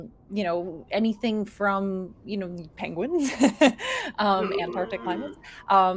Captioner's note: laughs